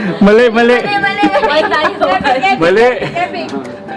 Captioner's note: people talking